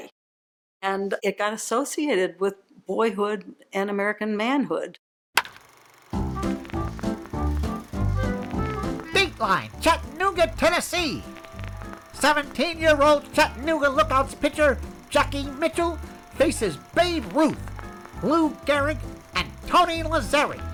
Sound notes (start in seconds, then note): 4.9 bat cracks; 4.9 bright jazzy music